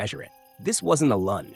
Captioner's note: pause